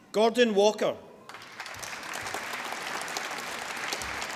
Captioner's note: applause